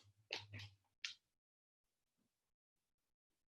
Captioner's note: silence